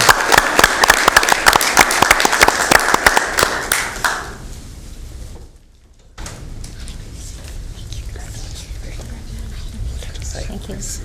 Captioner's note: applause